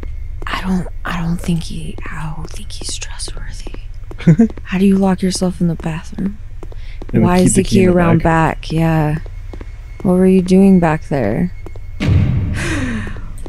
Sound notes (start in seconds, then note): 4.2 chuckles; 12.5 gasps